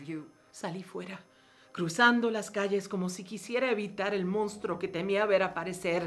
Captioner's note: speaking in foreign language